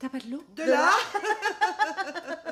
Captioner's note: giggling